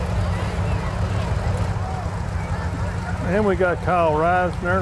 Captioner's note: revving continues